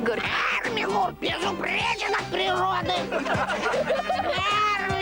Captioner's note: laughter